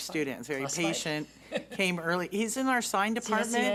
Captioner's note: man speaks off mic